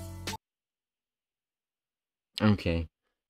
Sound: music abruptly stops

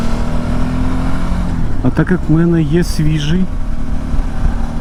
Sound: motorcycle

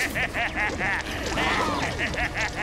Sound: laughing maniacally; gasping

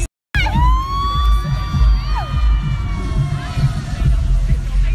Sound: cheering

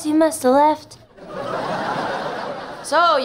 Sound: laughing

